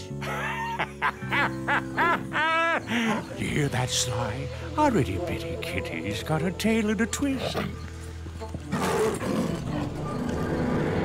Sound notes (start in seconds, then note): 0.1 laughs; 8.7 snarling